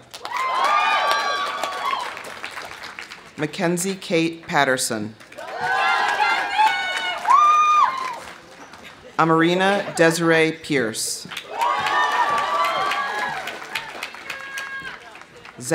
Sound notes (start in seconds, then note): 0.0 audience applauding; 0.1 audience cheering; 5.3 audience cheering; 7.2 audience applauding; 11.2 audience applauding; 11.3 audience cheering